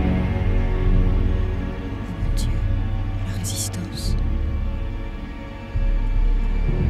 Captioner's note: speaks in French